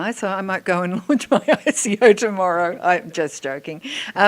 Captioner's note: laughing